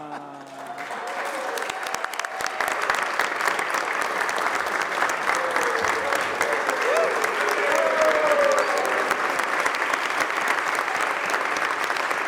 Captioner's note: applause